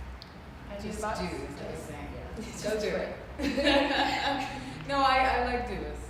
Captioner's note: laughs